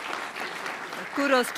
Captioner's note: audience applause